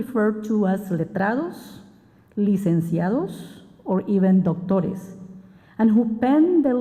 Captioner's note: spanish